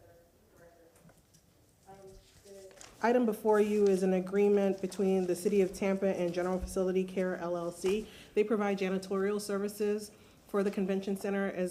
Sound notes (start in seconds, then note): 2.1 off microphone